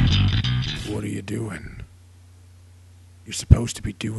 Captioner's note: voiceover